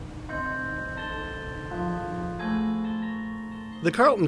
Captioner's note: bells ringing